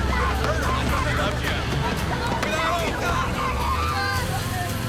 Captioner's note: overlapping chattering